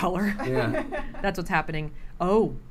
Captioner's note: laughter